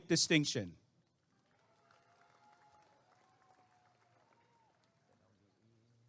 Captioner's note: applause and cheering